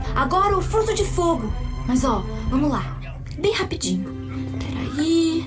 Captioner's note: speaking foreign language